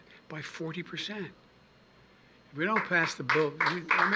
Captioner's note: applause